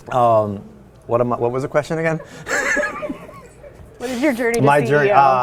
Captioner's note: laughs